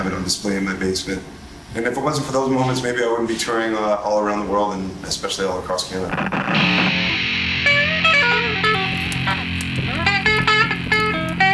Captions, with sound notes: I have it on display in my basement. And if it wasn't for those moments, maybe I wouldn't be touring all around the world, and especially all across Canada. (amp giving feedback) (electric guitar riff)